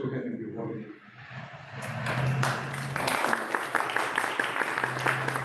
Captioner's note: applause